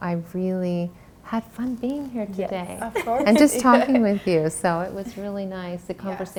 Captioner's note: laughs